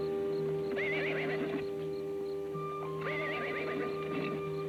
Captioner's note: horse whinnies